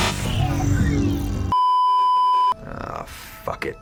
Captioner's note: beeeeeeeeeeeep